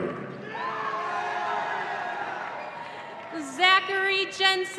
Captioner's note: audience cheering